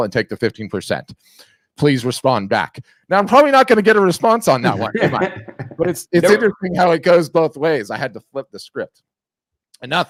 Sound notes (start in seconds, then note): 4.6 laughs